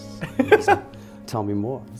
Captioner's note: interviewer laughs